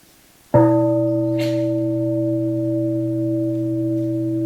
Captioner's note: bell rings